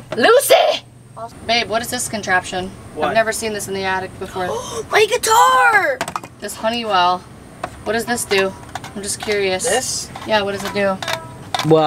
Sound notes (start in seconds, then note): 4.5 gasping